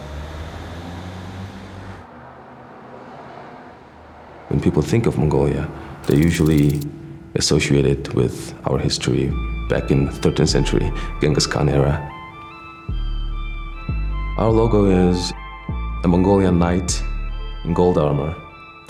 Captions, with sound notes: [in English] When people think of Mongolia, they're usually associate it with our history back in the 13th century, Genghis Khan era. Our logo is a Mongolian knight in gold armor.